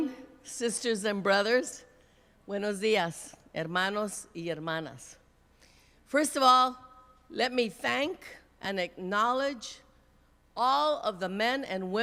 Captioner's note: speaking Spanish